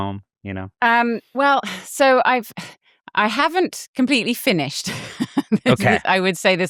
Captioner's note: laughs